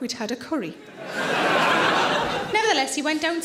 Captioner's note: audience laughing